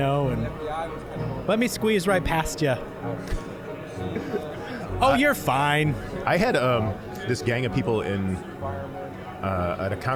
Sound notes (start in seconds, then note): 3.8 laughing